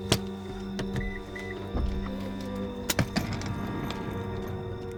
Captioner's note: car beeps